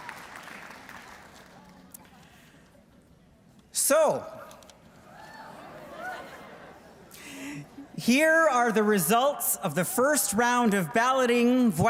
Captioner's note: applause